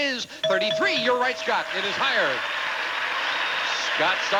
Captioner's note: audience applauding